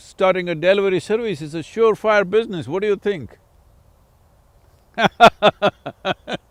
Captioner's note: laughs